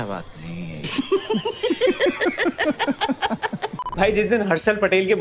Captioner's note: laughing